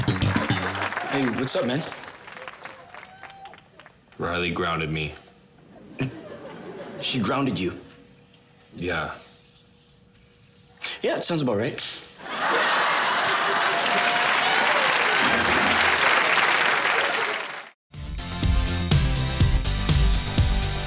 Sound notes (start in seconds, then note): 0.0 audience applauds West's entrance; 5.6 audience laughs; 12.2 audience laughs and applauds wildly